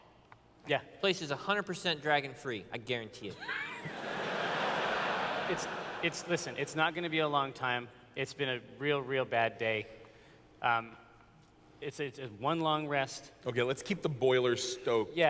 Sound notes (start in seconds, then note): 3.3 laughter